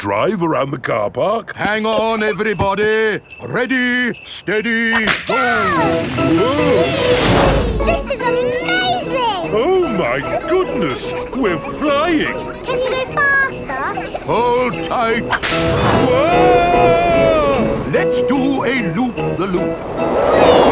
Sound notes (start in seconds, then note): 6.8 all exclaiming